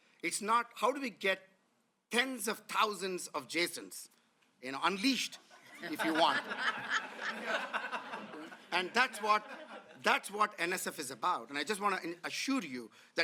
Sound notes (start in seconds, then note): 7.6 laughter